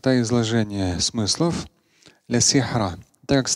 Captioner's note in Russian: говорит на арабском